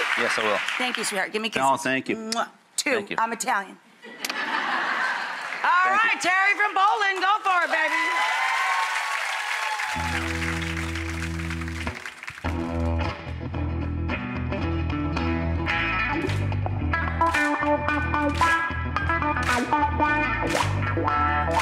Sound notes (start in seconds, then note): 4.0 audience laughs; 7.7 audience cheers; 17.3 audience claps; 17.3 upbeat guitar music